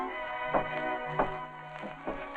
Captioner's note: knocking